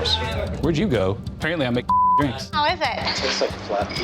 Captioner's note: beep